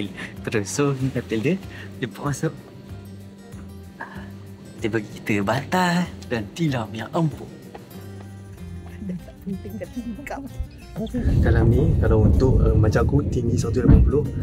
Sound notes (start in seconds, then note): 8.8 laugh